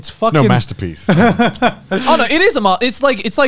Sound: laughing

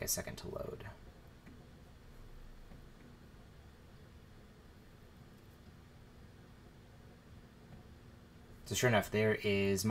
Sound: silence

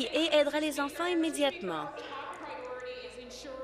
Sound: applause

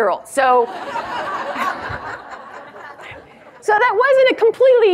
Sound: audience laughs

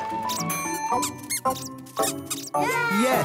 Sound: squeaking; dinging; cheering

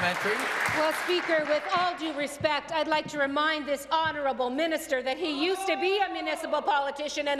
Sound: applause

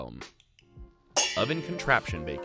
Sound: pans clanging

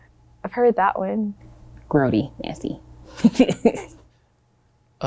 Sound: laughs

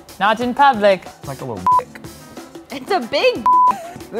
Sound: beep

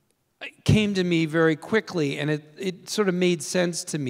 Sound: none

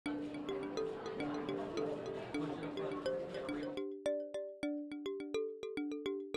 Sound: people murmuring; slow relaxing music

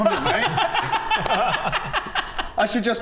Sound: heartless giggles

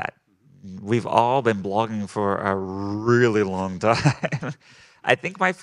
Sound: laughing

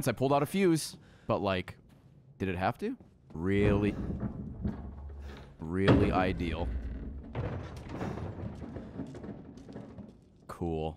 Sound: ambient scary noise

